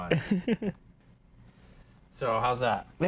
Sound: laughs

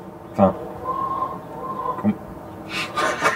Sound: chicken noises; laughs

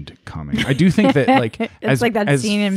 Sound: laughing

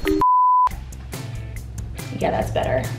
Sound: beep

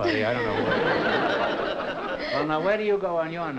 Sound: laughter

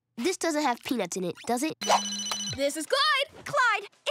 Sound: ringing

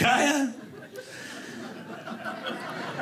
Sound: audience laughing

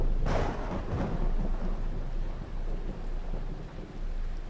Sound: thunder cracking

